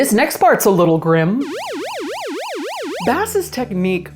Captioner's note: siren blaring